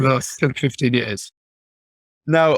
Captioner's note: laughing